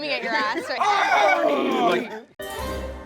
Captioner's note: screaming; upbeat tune